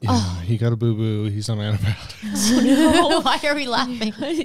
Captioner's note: all laughing